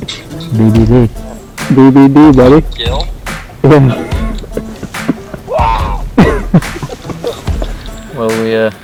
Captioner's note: excited voices